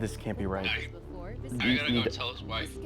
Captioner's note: on phone